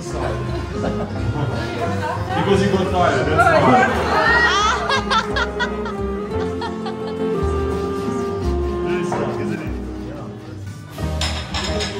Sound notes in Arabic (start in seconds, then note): 3.4 هاها!